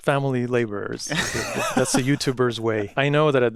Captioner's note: laughs